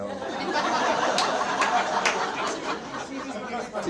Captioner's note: audience laughs